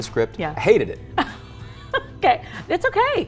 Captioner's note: laughs